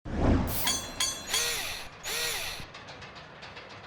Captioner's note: mechanical SFX